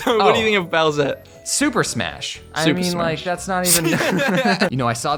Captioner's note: both Laugh